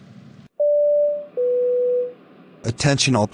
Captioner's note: flightcraft warning beeps